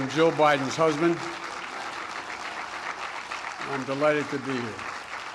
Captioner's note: applause